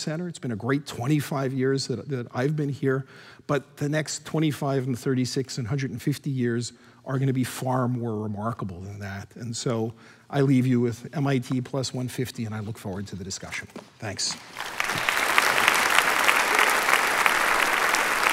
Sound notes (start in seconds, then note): 14.3 applause